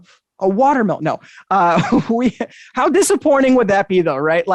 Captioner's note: chuckles